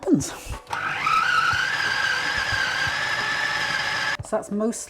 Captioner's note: food processor whirring